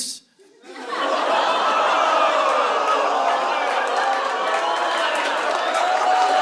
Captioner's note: audience laughing; audience howling